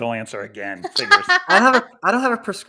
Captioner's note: laughs